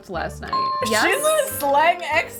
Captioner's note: dinging